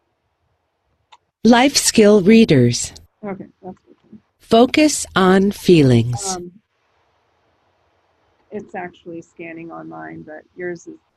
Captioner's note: voice from iPad